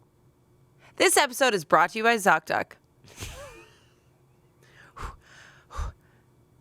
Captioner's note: laughs